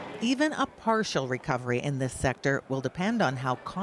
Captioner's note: none